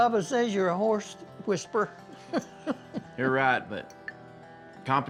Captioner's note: laughs